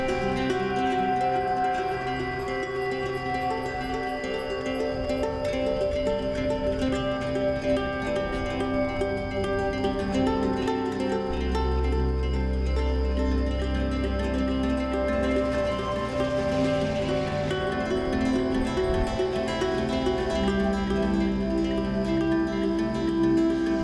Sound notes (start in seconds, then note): 0.0 cheerful music continues; 10.1 cheerful music continues; 15.6 engine rumbling; 20.1 cheerful music continues